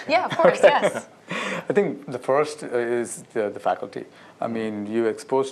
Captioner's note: laughter